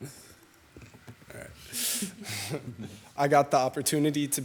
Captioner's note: everyone laughing